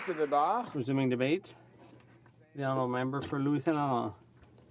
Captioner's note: some Applause